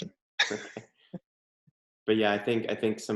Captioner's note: laughing